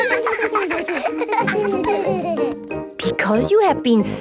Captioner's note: laughter